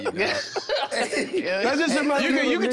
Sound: everyone laughing amusingly

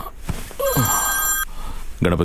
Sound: mobile ringing

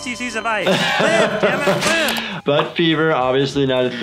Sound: laughs

